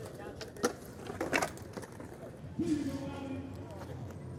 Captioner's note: wheels scraping